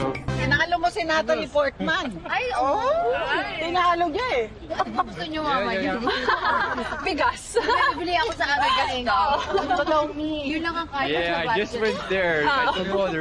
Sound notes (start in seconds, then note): 5.9 laughing